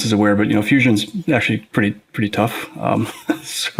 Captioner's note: chuckles